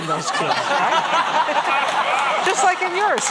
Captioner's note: laughter